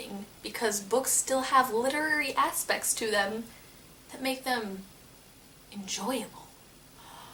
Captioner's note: gasp